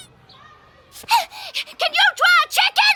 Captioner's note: squeaking